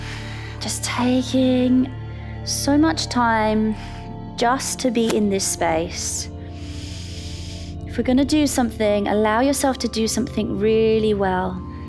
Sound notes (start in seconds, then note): 0.0 inhales; 0.2 exhales; 6.5 inhales